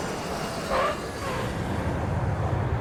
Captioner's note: airplane lands